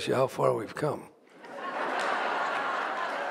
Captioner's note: laughing